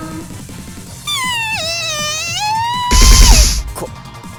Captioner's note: shriek